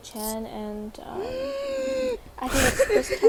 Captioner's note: gassssssp